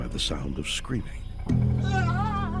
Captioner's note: man screaming